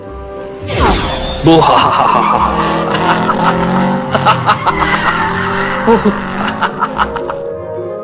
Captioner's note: does evil goblin laugh as he runs around